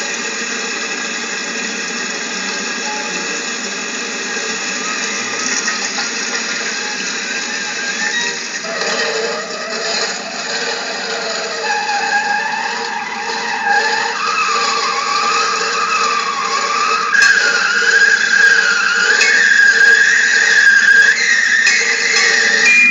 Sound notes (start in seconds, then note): 8.6 Screech; 22.6 ding